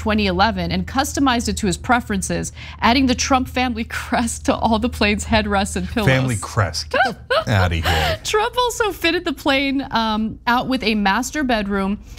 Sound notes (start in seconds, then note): 6.9 laugh